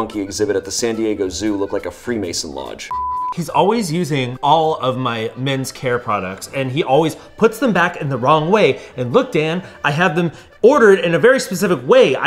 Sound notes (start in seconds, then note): 2.9 beep